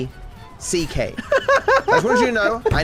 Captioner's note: laughs